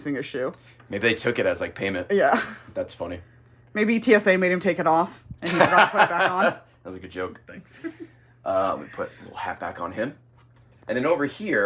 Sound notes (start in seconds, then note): 5.4 laughs